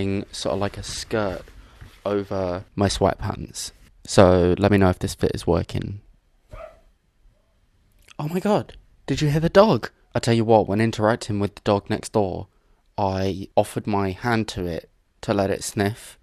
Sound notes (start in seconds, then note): 6.5 dog barks